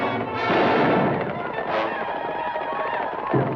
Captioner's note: gun fires; native Americans howl